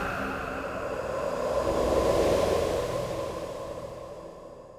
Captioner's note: wind humming